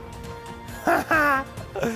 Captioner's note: Matt laughs